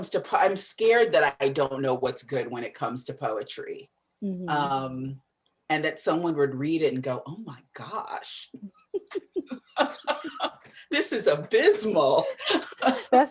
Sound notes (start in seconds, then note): 9.0 laughter; 12.4 laughs